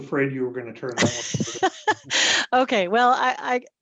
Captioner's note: laughing